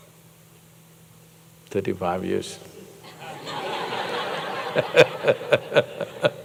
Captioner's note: laughter